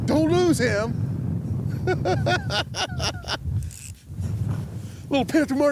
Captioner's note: laughs